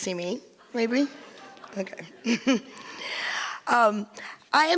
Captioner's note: giggles